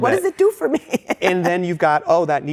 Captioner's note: laughs